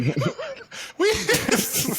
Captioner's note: laughing